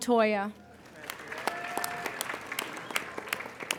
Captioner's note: applauding